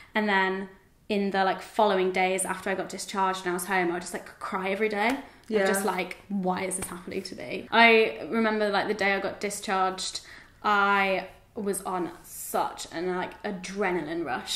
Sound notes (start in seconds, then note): none